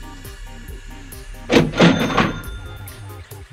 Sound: register noise

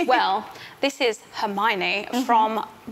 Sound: laughs

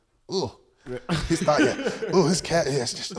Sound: group laughs

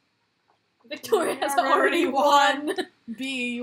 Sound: laughter

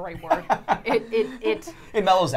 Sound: laughing

